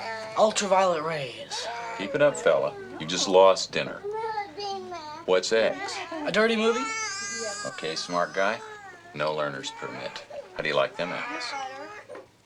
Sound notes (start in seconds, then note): none